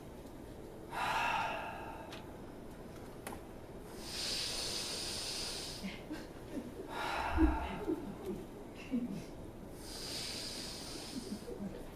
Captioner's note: breathing deeply